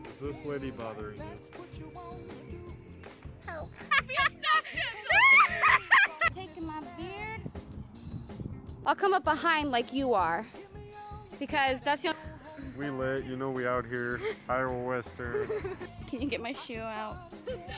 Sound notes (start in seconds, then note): 3.4 quietly; 3.8 uncontrollable laughter